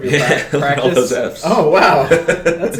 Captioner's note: laughs